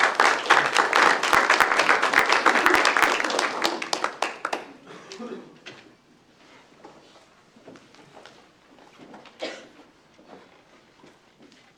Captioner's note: applause